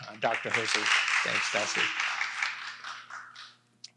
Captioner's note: applause